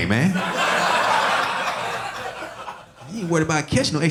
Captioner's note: audience laughing